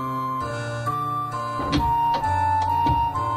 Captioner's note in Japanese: 扉の開閉音：ガッタン